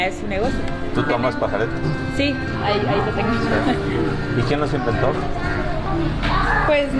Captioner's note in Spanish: risas